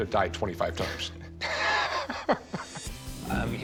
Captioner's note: both laughing